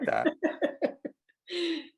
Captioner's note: laughs